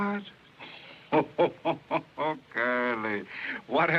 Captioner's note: laughing